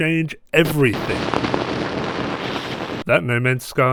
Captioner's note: static Glitching